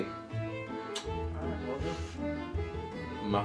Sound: smacks lip

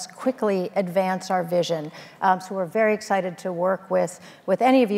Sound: none

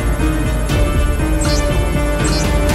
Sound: alphabet displayed sound

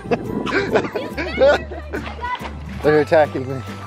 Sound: father laughs; children yelling

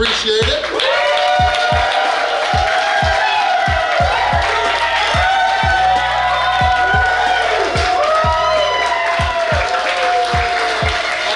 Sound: cheering & Clapping

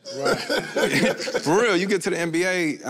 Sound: all laugh

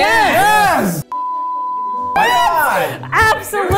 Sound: beep

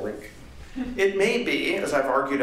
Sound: laughter

